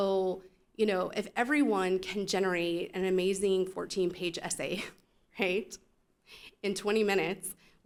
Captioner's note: chuckle